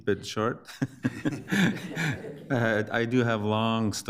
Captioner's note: all laughing